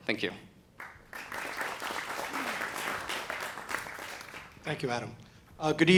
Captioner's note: applause